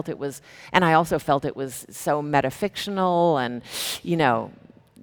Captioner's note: sucks breath